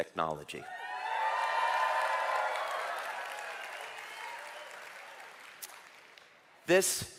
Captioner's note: เสียงปรบมือ